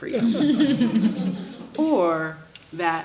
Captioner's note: audience laughs